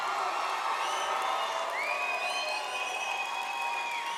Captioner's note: audience applauds